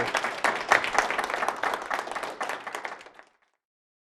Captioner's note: applause